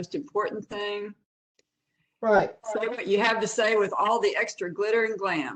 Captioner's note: professor speaking